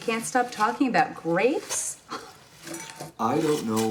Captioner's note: Freddie scoffs